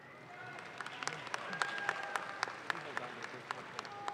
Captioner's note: audience claps